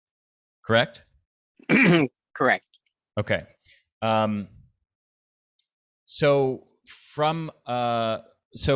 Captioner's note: clears throat